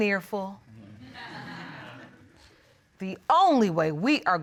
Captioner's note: audience murmurs in agreement